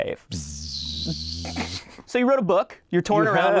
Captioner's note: buzzing